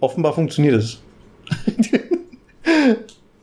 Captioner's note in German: lacht